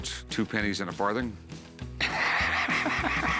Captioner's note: laughs